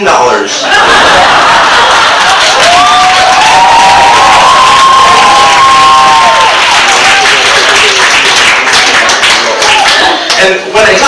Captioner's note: audience cheers